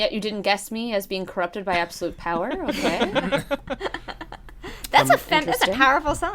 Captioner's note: laughter